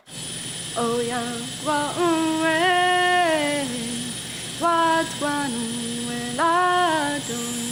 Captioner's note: machines and tools whirring